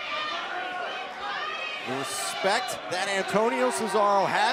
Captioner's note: crowd chatter